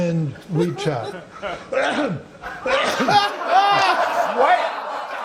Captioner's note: coughing; laughter; laughter continues